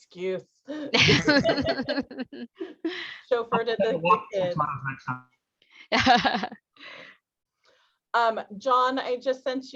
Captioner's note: laughter